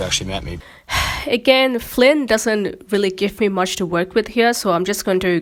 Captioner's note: sighs